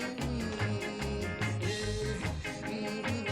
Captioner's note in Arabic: طنين